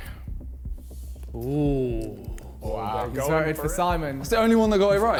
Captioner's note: men groaning